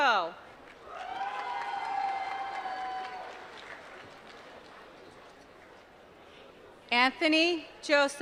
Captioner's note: applause